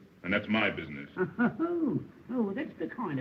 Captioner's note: chuckling